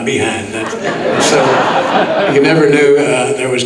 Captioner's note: audience laughing